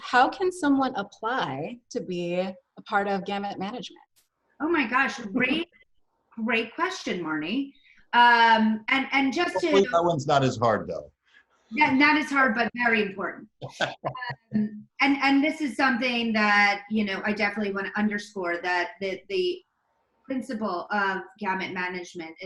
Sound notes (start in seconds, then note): 13.6 laughing